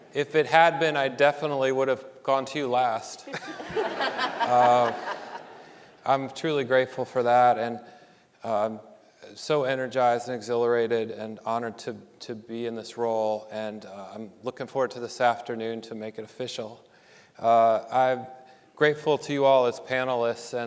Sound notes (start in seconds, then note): 3.2 panelists laughing; 3.2 audience laughing